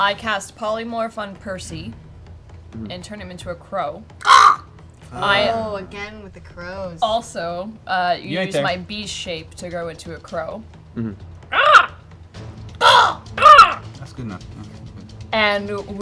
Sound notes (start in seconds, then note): 4.2 eerily good crow noise; 11.5 eerily good crow noise; 11.5 crow noise